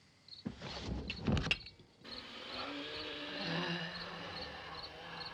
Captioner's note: groaning, wheezing